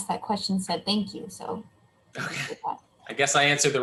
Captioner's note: laughs